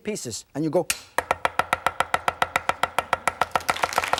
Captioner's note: knife banging; audience applauding